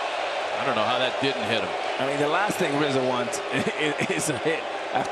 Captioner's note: laughter